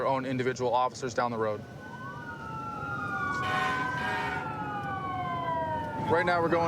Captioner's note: emt sirens blaring